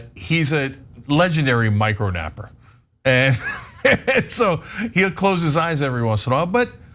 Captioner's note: laugh